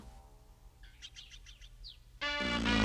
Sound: blows raspberry

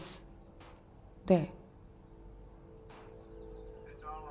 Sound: airplane engine roaring

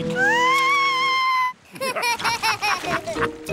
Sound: shrieks; laughter

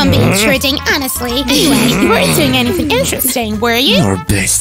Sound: giggles softly and guiltily

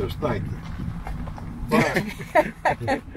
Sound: laugh

